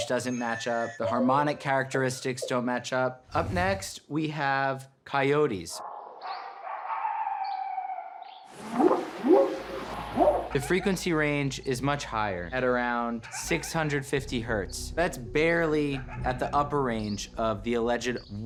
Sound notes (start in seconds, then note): 8.0 barking; 9.8 whooping sound